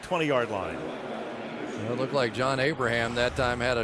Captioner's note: pa announcement